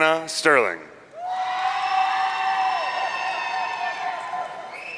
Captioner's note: audience cheering